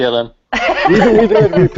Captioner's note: laughter